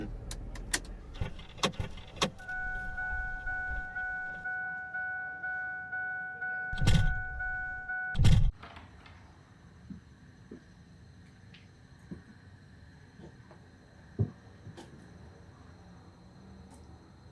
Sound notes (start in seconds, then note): 2.1 car beeping; 14.2 footsteps tapping